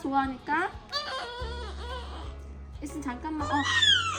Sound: waaaah

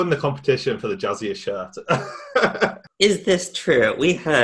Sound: laughing

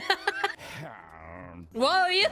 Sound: laughter; Squidward Grumbles

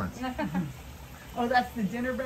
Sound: guide laughing

